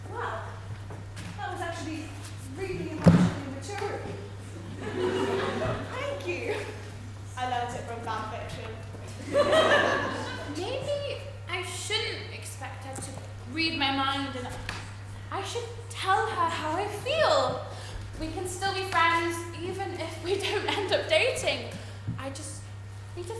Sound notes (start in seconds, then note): 10.7 audience laughter